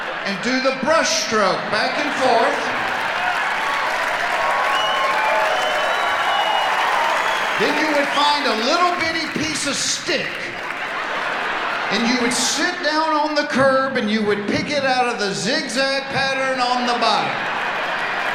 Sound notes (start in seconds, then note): 3.6 audience applauding; 11.0 audience laughing